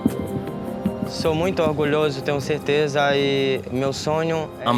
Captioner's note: Brazilian spoken audio